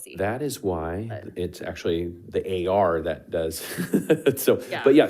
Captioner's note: laughs